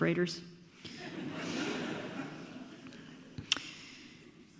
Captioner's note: audience laughs